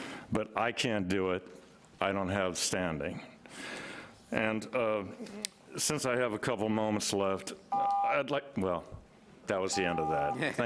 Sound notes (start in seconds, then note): 8.1 timer beeps